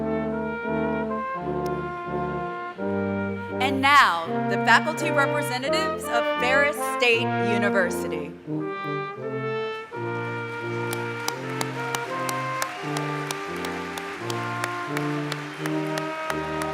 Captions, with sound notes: And now, the faculty representatives of Ferris State University. [APPLAUSE]